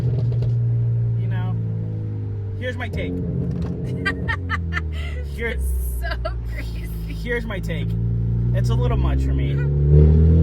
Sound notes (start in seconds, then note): 3.8 car engine revving; 3.9 laughing; 10.2 car engine revving